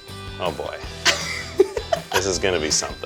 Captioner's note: laughs